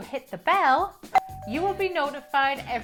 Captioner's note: bell rings